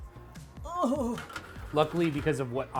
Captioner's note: groaning